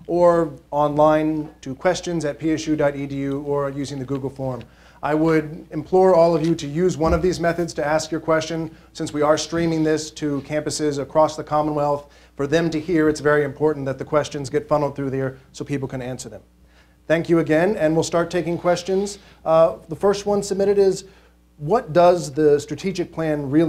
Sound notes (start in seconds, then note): none